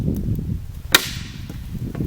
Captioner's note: snap